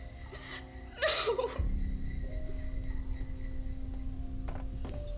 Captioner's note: sobbing